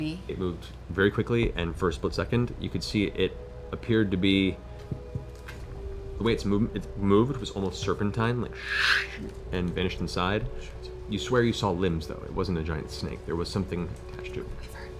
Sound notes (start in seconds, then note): 8.6 whoosh